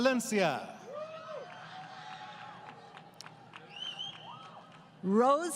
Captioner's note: crowd Cheering